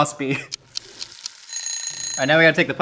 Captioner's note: clock ticking and rings